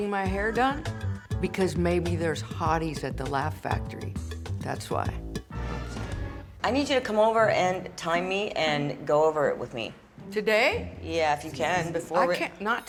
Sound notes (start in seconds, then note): none